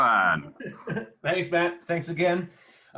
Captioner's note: laughing